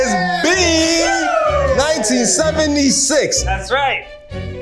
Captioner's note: group cheers